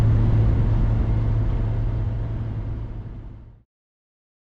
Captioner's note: road noise fades out